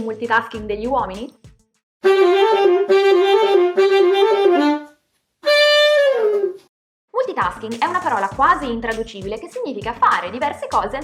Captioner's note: in Italian